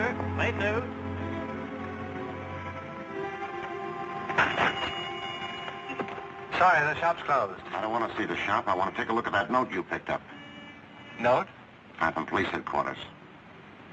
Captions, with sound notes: Paper, late news. (tense music) (bells jingling) Sorry, the shop's closed. I don't want to see the shop. I want to take a look at that note you picked up. Note? I'm from police headquarters.